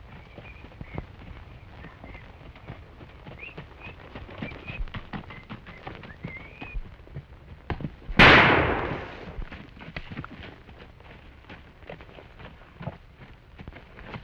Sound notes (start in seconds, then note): 8.2 gunshot